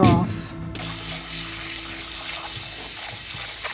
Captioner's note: water rushing